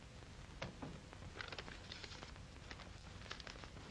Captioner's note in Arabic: يغلق الباب